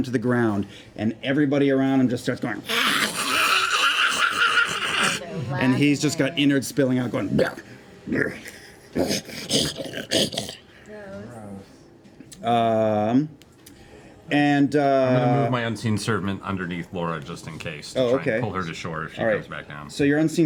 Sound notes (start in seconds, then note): 2.6 snarling; 7.3 gravelly dying sounds